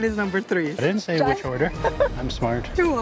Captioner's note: laughs